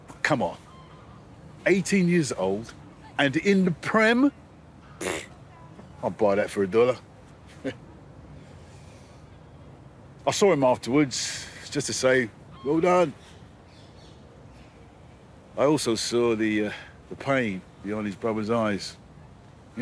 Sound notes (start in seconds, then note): 7.5 he chuckles, softly